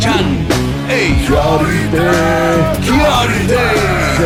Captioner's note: non-english speech